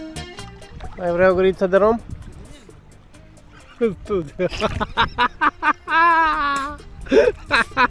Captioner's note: laughter